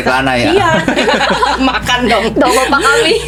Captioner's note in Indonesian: tertawa